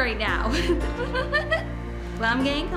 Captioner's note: giggles